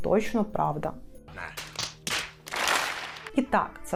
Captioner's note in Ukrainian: звуки колективного фейспалму